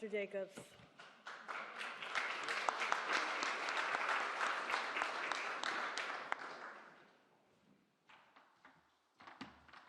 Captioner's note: applause